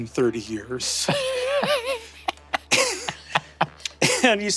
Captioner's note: Zac and Murph laughing